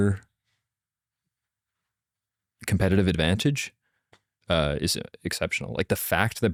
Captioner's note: none